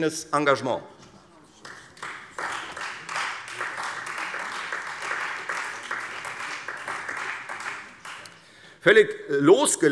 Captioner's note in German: Beifall Freie Demokraten und vereinzelt SPD